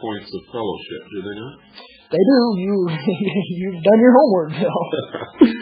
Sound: laughs

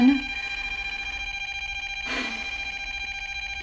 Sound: machine beeping

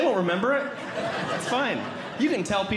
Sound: audience Laughing

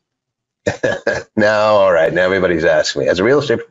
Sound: laughs

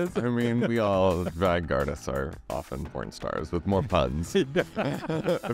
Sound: laughs; laughs

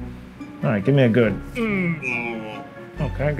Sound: grunts

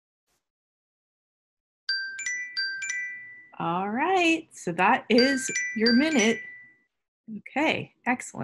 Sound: alarm Rings

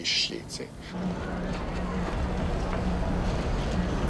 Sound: wind blowing

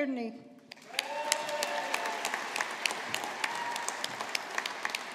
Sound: audience applauding

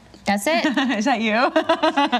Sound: laughs

